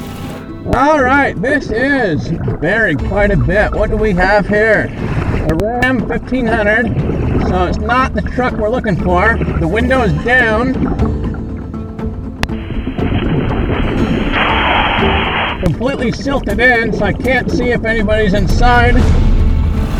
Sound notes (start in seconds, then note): 10.9 oxygen bubbling in water; 13.0 upbeat action music